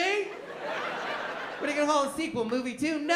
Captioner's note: laughter